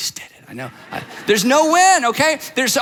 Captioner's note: audience laughs